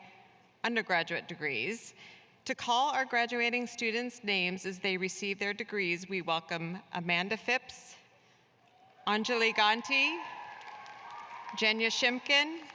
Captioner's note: cheers and applause